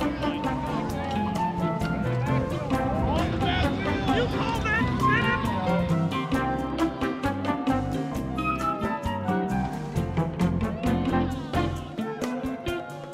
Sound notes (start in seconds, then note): 0.0 people shouting and music